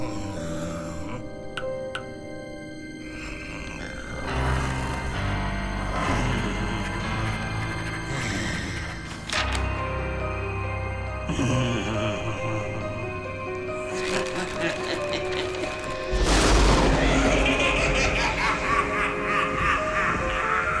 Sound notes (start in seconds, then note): 10.4 raspy breathing; 13.8 chuckles; 16.1 sinister laughing